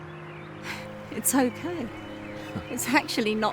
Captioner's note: sighs